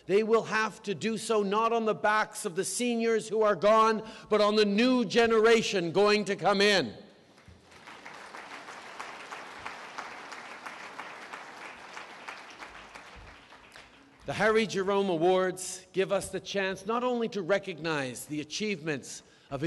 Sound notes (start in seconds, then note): 10.5 applause